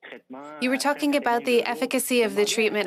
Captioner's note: speaking French